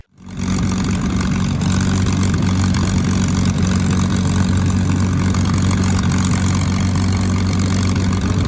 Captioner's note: Sound of P51 engine shutting down